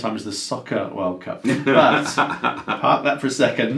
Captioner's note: laughs